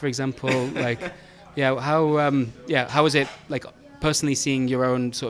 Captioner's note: former employee laughs